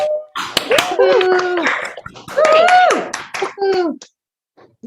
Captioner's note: applause